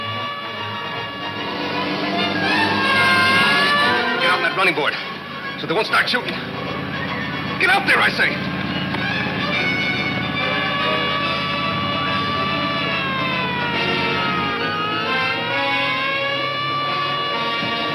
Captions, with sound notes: - Get on that running board so they won't start shootin'. Get out there, I say. (siren wailing) (dramatic music)